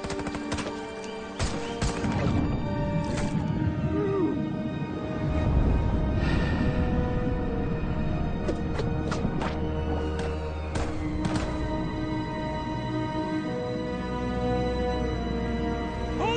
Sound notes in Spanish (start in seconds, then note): 1.4 Disparos; 4.0 Quejidos; 10.3 Disparos